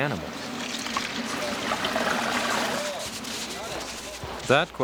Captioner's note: water splashing